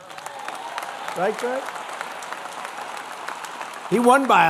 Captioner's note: applause